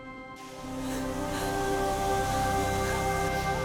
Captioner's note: gasp